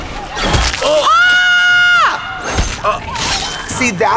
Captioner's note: blood squelching; Trixie screams